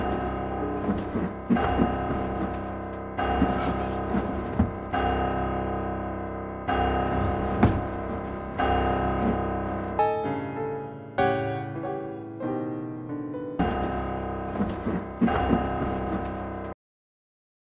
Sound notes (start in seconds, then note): 0.0 repeating piano note; 0.2 thudding; 13.6 thudding; 13.6 repeating piano note